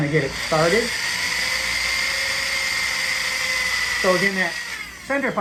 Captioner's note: drill whirring